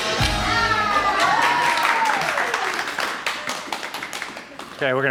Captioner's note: onlookers applauding